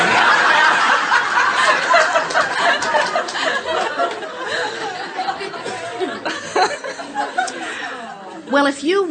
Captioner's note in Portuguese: o público e a convidada riem